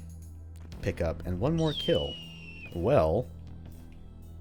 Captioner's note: hawk screeches again